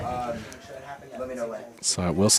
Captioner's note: indistinct chatter